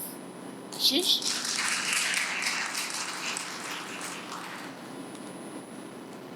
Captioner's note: applause